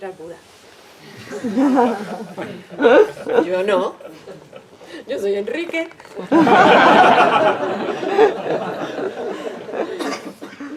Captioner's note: laughs